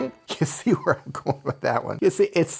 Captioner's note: laugh